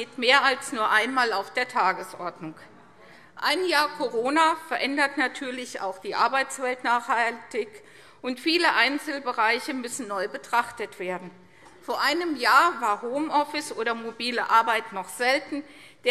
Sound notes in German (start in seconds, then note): none